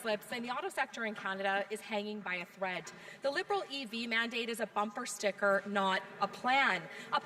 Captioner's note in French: voix de l'interprète